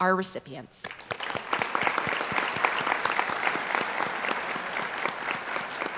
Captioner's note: applause